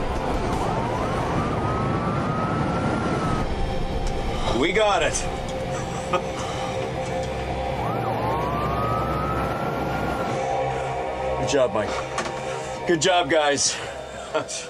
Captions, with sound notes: - We got it. (sirens wailing) Good job, Mike. Good job, guys.